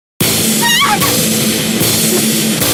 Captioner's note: gasped